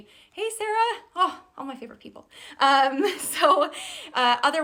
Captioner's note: laughs